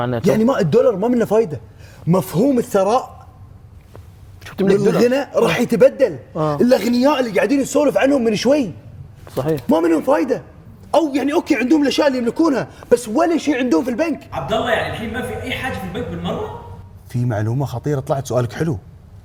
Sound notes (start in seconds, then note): none